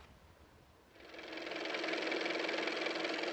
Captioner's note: car motor